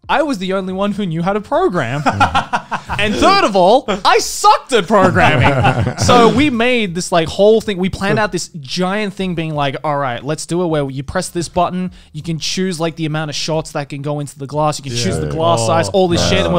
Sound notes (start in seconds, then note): 1.9 laughs